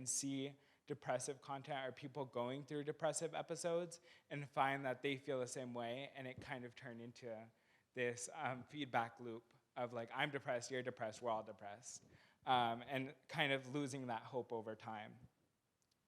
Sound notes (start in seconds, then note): none